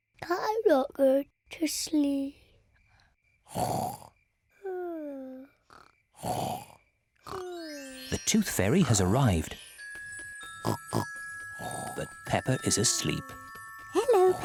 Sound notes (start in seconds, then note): 0.1 sleepily; 3.5 snoring; 6.1 both snoring; 10.6 oinks